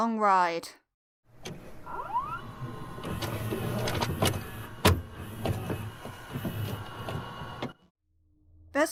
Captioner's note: VHS noises